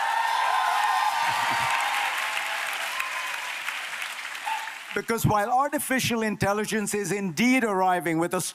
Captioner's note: applause